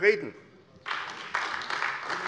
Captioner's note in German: Beifall AfD